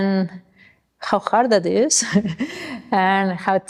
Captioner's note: chuckles